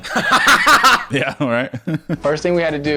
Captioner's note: laughing